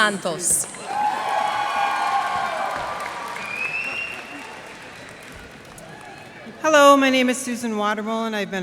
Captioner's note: cheers and applause